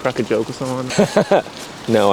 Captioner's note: laughs